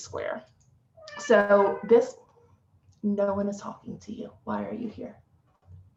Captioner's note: cat meows